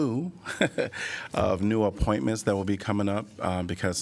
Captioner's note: laughter